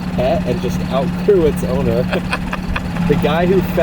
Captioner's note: cameraman laughs